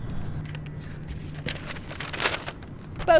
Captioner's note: paper rustling